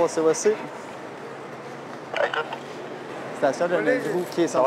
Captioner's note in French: radio